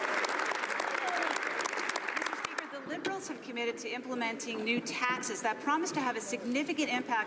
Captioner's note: some Applause